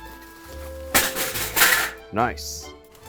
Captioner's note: tray clatters